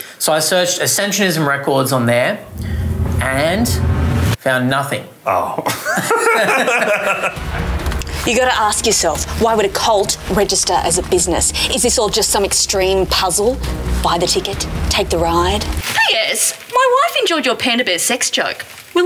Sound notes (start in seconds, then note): 5.6 laughter